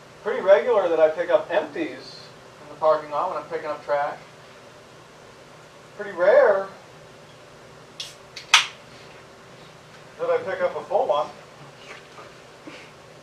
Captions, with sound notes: Pretty regular that I pick up empties in the parking lot when I'm picking up trash. Pretty rare [can opening] that I pick up a full one.